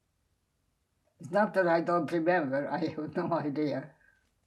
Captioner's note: laughing